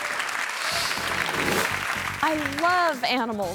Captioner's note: crowd applauds; screen swooshes